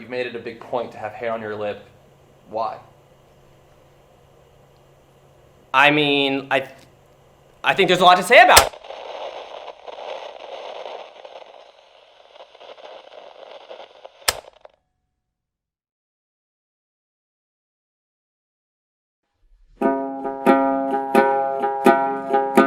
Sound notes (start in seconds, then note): 7.6 static; 19.8 gentle music